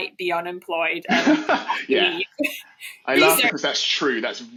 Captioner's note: laughs